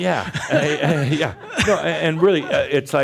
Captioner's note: more chuckles